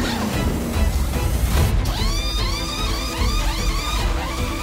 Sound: machine whirring

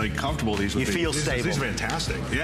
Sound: applause

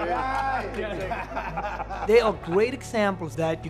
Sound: laughter

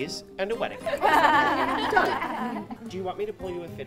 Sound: laughter

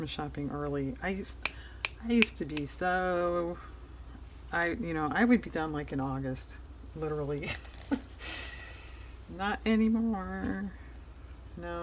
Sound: laughs

